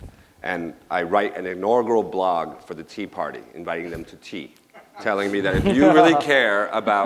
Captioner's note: laughter